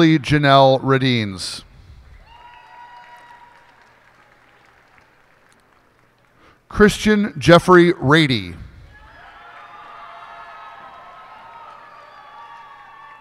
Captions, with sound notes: Ashley Janelle Raduenz. [cheers and applause] Christian Jeffery Rady. [cheers and applause]